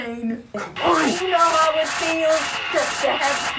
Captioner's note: Billy groans